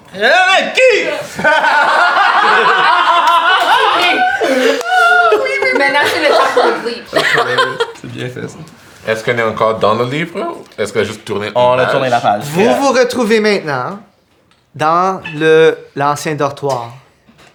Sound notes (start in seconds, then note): 1.0 the group bursts out laughing; 7.2 laughs